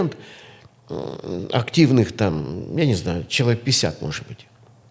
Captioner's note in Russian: фыркает